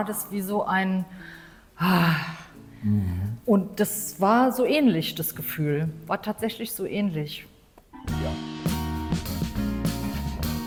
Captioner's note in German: seufzt